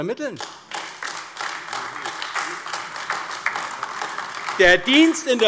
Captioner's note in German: Beifall AfD